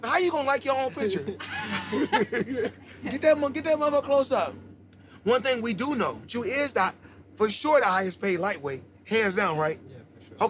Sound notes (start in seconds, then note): 0.9 laughter